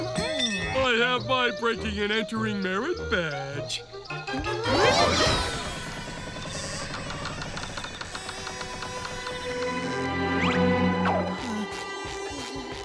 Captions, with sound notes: I have my breaking and entering merit badge. [door creaking]